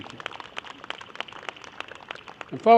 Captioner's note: applause